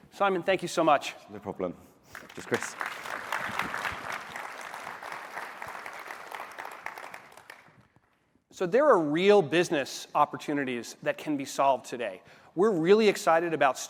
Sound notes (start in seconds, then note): 7.5 applause